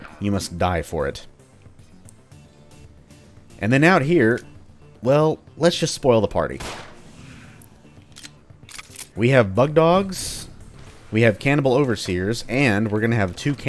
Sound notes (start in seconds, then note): 6.6 Glock shot, everyone alerted